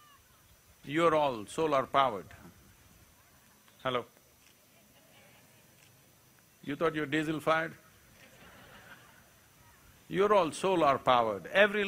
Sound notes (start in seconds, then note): 8.1 laughter